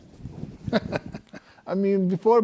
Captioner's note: laughs